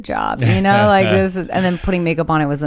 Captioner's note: laughs